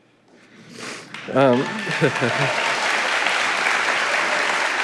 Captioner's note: audience applauding